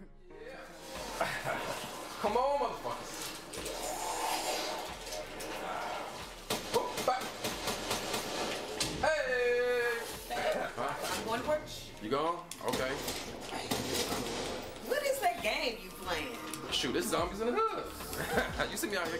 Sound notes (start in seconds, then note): 0.1 upbeat music; 6.2 gunshots ringing